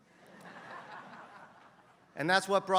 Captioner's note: laugh